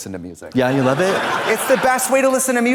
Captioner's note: audience laughs